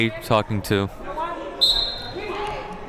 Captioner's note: whistle blows